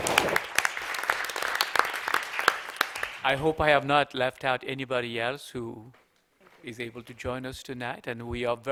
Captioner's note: applause